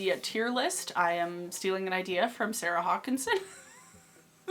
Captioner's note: laughs